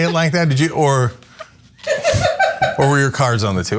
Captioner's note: laugh